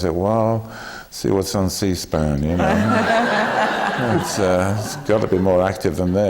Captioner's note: laughter